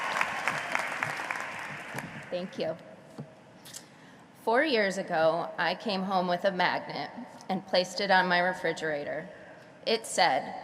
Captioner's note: cheering and applause